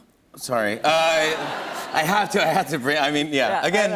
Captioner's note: laughter